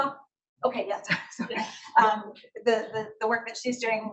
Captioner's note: participants laugh